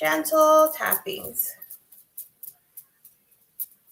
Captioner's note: tapping